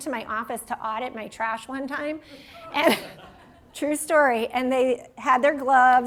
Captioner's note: laughter